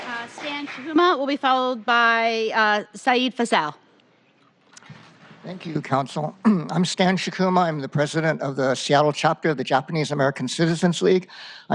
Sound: applause

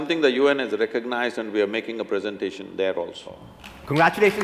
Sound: applause

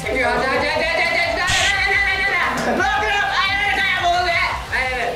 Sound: passionate audience

